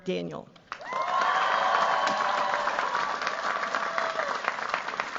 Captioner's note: cheers, applause